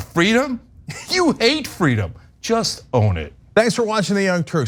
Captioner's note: laugh